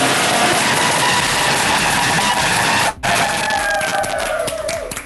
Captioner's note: cheering